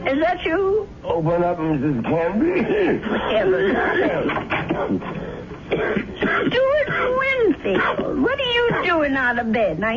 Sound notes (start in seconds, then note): 5.6 coughing